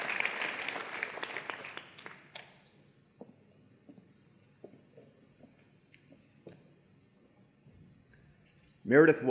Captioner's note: applause and Cheering